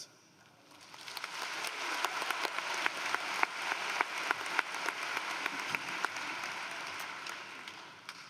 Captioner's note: applause